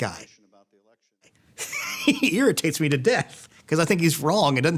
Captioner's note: laughs